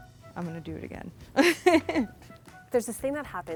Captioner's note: laughter